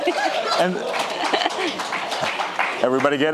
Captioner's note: audience applauding